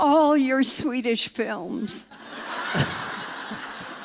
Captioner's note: laughter